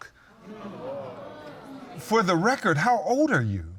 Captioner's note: audience gasps